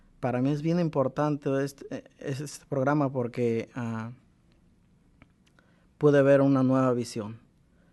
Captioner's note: speaks in Spanish